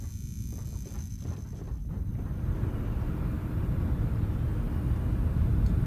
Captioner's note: rumbling